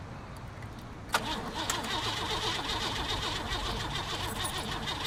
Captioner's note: car stalls